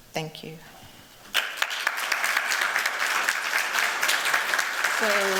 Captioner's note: applause